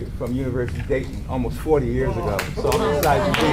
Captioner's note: audience claps